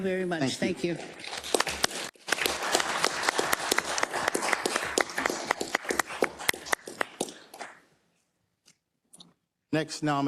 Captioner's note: applause